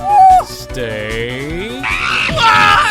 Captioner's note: Money shrieks!